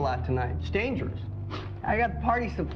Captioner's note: scoffs